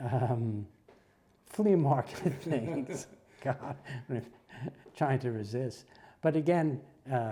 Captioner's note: laugh